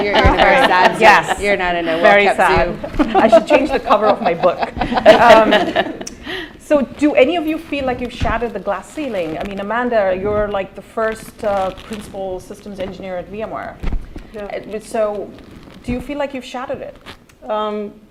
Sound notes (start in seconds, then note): 4.7 laughter